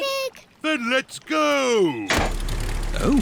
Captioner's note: lever clunks